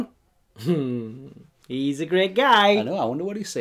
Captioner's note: chuckles